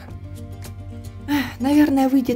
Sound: sad sigh

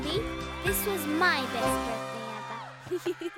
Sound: Sema giggling

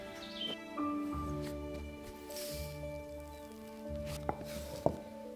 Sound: dough gently hisses

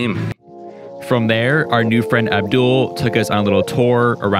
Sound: voiceover

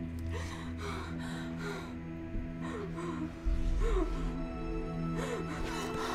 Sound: crying

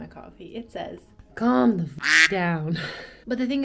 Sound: quack

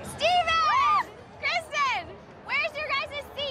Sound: girls cheering

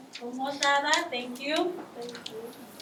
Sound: speaking in foreign language

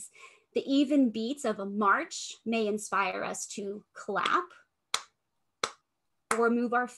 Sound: clapping

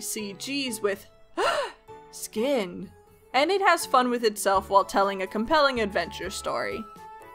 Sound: gasp

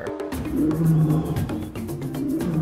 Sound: lion roaring

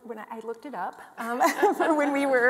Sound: both laughing

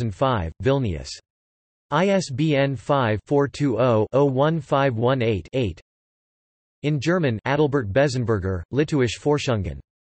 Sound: in German

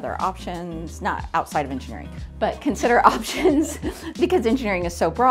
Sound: laughs

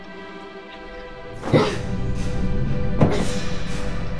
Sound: thudding

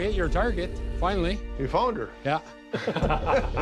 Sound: chuckles

